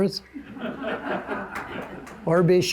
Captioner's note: audience laughing